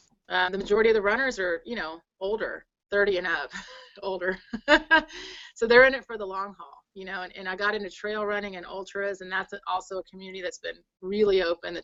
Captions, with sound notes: the majority of the runners are older. 30 and up, older (laughs). So they're in it for the long haul. You know and I got into trail running and ultras, and that's also a community that's been really open.